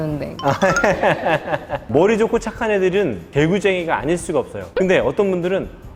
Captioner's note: laughing